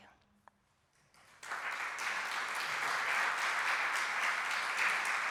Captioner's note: applause